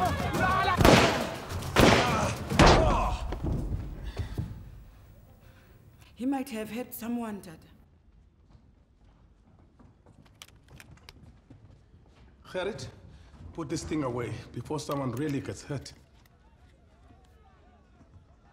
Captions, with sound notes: [gun firing] [thud!] Ah! He might have hurt someone, Tata. Gerrit, put this thing away before someone really gets hurt.